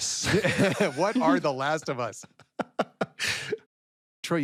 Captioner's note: laughter continues; all laugh